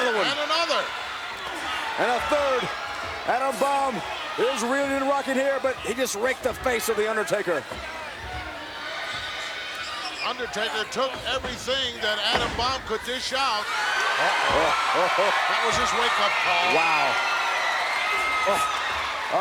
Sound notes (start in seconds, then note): 14.9 crowd cheers